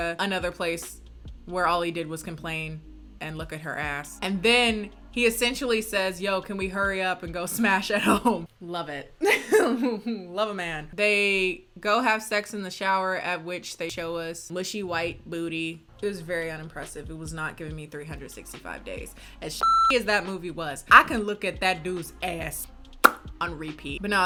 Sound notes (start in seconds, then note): 9.2 laughs